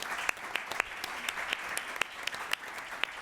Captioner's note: applause